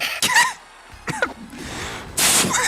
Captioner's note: laughter; coughing and laughter; laughter